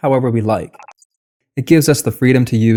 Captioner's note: beep